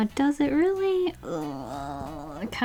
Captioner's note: moaning